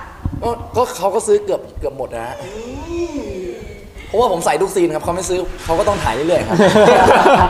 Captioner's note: laugh